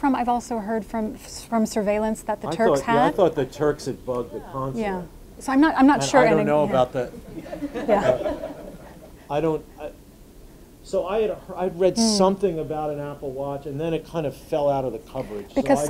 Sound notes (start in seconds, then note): 7.0 audience laughing